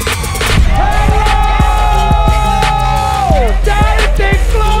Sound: crowd cheering

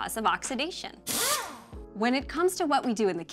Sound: drill motor running

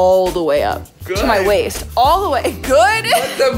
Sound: laughs

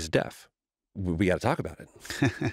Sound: chuckles

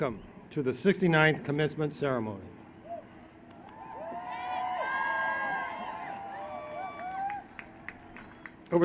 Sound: applause

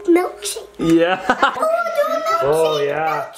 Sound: laughs

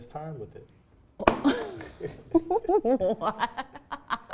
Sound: laughs

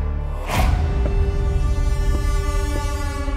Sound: footsteps approaching

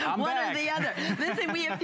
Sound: laughter

